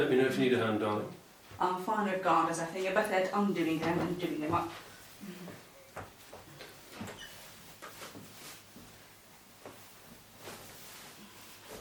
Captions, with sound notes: - Let me know if you need a hand darling. - I'm fine with garters, I think. And you're better at undoing them and doing them up. (clothing rustling)